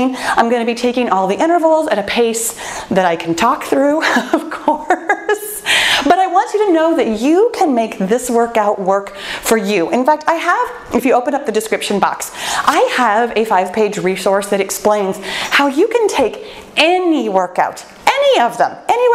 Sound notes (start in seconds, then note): 4.1 laughs joyfully